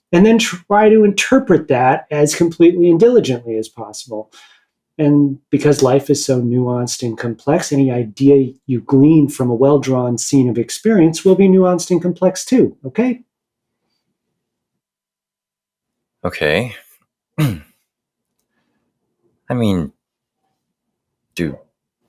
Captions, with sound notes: And then try to interpret that as completely and diligently as possible. And because life is so nuanced and complex, any idea you glean from a well-drawn scene of experience will be nuanced and complex, too. Okay? Okay. [clears throat] I mean... Do...